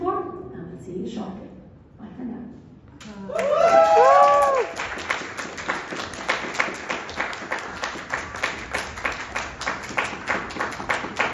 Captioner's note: applause